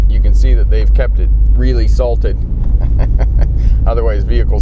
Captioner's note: laughs